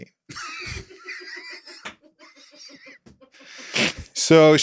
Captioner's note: everybody laughs